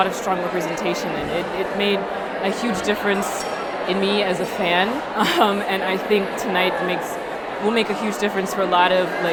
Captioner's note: laughs